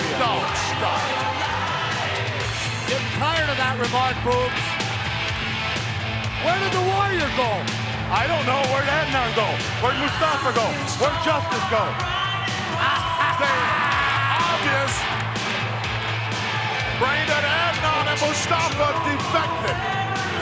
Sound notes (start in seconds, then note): 4.6 upbeat music; 12.7 Roddy laughing